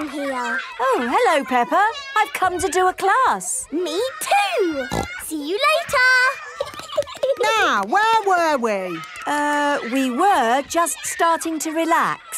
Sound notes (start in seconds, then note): 4.8 snorting; 6.4 giggling